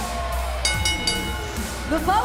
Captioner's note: crowd cheering; bell ringing